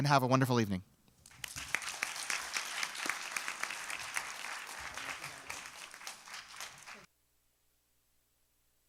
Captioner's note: applause